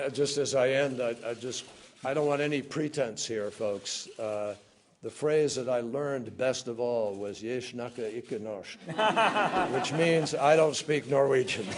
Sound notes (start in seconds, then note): 8.8 laughter